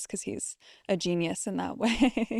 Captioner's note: laughs